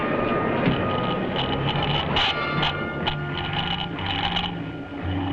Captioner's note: speaker crackling